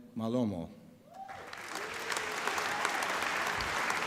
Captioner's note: applause